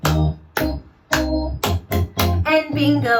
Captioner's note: clap, clap, clap-clap-clap